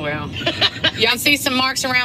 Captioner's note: laughing